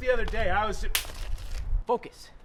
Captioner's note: slap